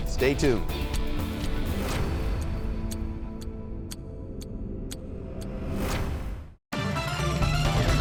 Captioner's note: timer ticks; dramatic music; upbeat music